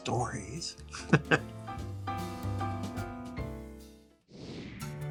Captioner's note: lively music; chuckling; screen whooshing; tranquil music